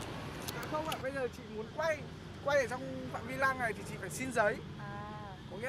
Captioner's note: speaking in foreign language